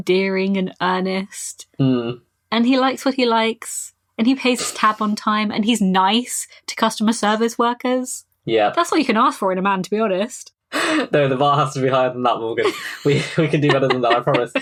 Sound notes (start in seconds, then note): 12.4 laughing; 12.4 laughs